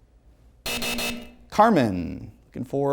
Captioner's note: heavy buzzing